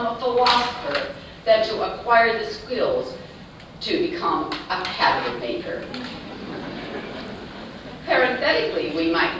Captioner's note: laughter